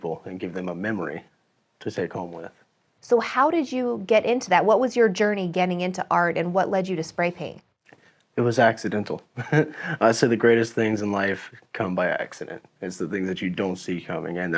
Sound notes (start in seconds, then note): 9.3 laughs